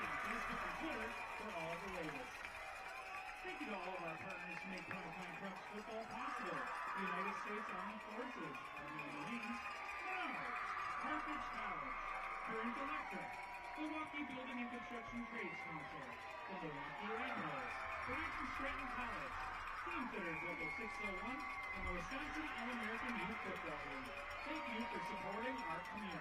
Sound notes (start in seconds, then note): 15.7 applause